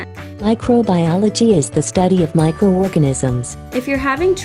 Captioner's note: australian Accent